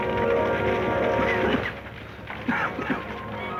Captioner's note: coughing